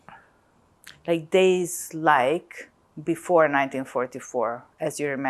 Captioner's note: none